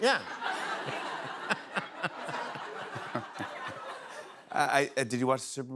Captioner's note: laughter